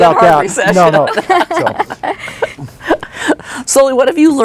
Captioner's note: collective laughter